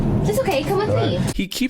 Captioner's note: white noise